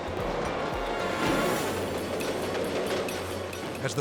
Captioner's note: fireworks exploding